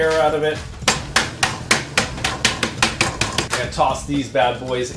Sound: rolling pin hitting

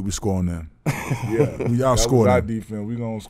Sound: laughing

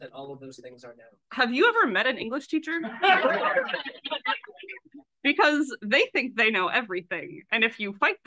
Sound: laughs

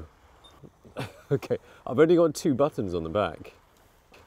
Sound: chuckle

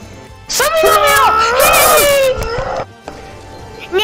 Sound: me growling

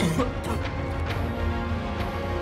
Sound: coughs

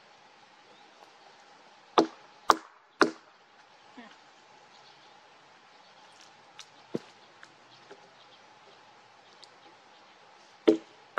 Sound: back end of an axe knocking on wood

